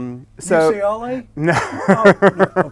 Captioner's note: laughs